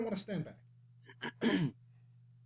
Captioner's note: clears her throat